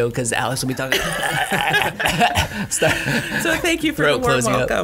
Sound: laughing

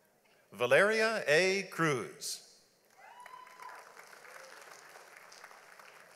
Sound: audience applauds

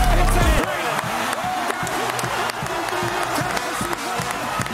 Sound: Applause from Tennessee Fans

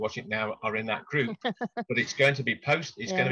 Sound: laughs

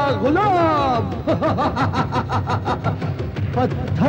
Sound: laughs

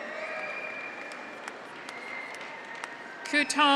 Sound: audience applauds; graduates cheer

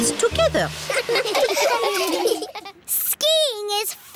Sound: laughing

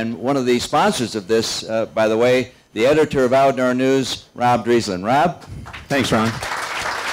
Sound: applause

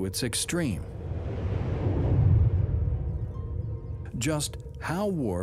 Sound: air whooshing

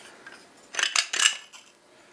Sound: clacking

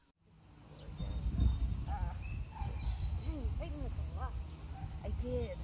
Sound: birds chirping

